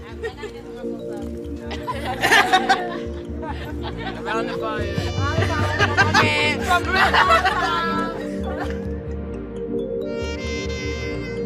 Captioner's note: cheers and applause